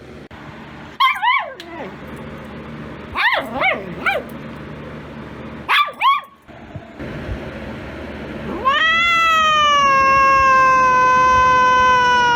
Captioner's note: Caprice yowls; Ella barks, yelps